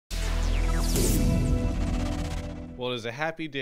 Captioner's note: sound effect